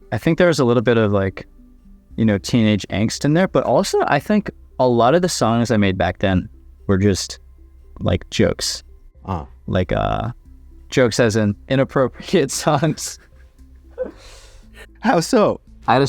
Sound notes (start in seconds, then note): 12.5 chuckles